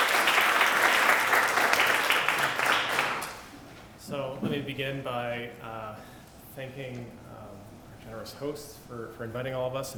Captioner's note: applause